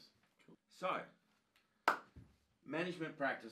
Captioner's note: hands clapping